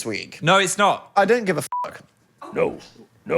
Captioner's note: beep